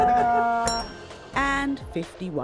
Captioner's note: bell dings